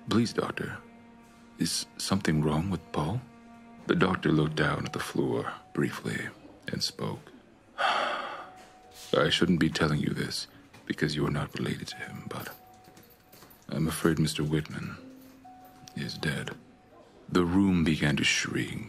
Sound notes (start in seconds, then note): 7.8 sigh